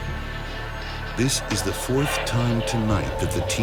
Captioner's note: voiceover